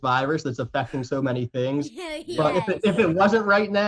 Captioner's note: laughs